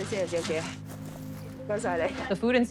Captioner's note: speaking in foreign language